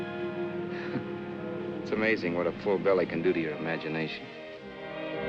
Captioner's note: chuckles; romantic ballad